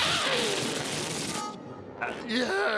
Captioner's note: escaping air squealing